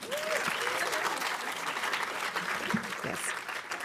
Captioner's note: audience applauding